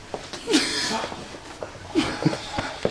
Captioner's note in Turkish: gülme sesleri